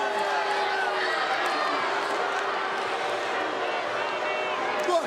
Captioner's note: crowd boos